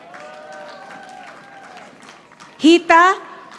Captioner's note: audience applauding